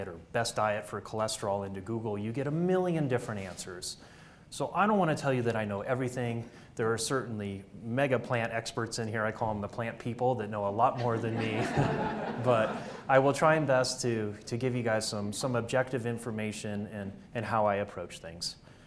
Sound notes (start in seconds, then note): 11.0 audience laughs